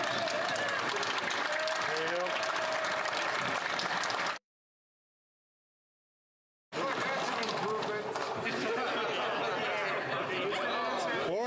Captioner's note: some Applause